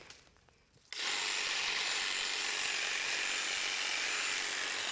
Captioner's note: tool whirring